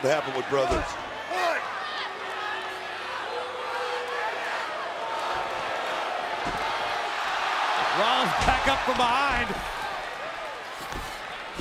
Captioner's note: applause